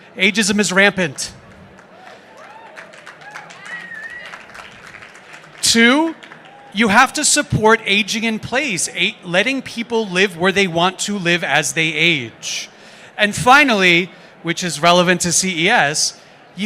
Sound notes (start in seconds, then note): 1.4 applause